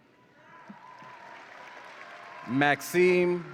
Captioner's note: audience applauds and cheers